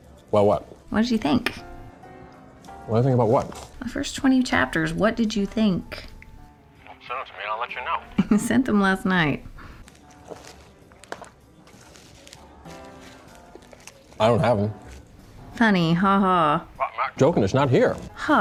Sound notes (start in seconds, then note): 6.8 hawk on phone